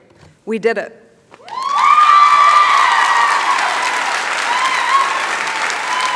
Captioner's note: cheering, applause